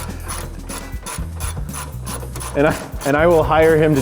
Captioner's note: wrench rasping